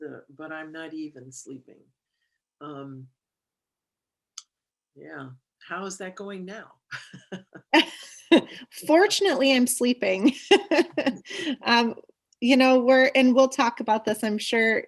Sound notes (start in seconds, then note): 6.9 laughter; 10.5 laughs